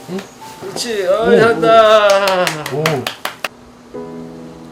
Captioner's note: applause